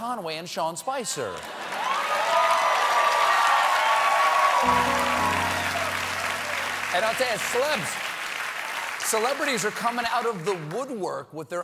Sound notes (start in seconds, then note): 3.8 cheers and applause